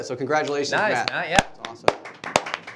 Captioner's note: applauding